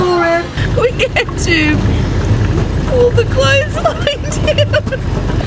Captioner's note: laughing